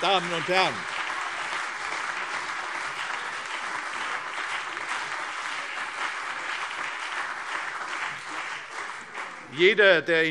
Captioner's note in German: Beifall CDU und BÜNDNIS 90/DIE GRÜNEN